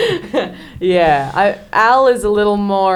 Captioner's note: laughs